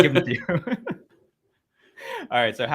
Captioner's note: both laugh